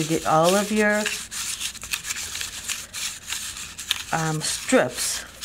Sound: cardboard rustling

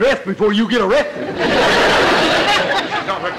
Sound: audience laughter

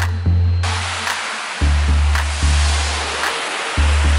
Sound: upbeat music; cars whooshing

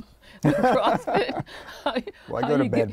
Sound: both laughing

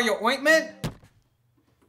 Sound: thud

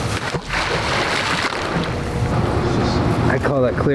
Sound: water splashes

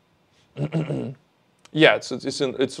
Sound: clears throat

